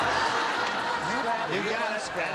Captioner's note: laughter